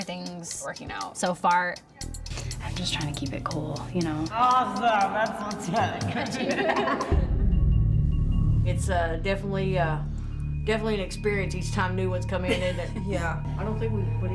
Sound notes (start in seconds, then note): 5.7 both laughing